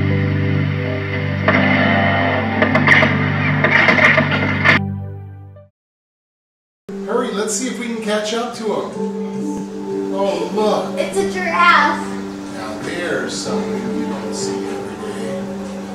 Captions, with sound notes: (gunfire) hurry let's see if we can catch up to 'em. oh look. it's a giraffe. now there's something you don't see everyday